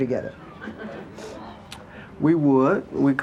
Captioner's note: audience murmuring